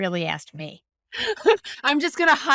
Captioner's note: laughing